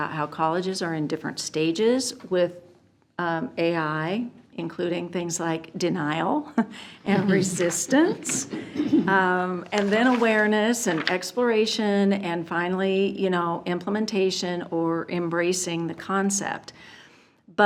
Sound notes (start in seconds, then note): 7.1 chuckles